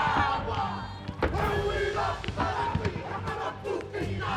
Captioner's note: haka continues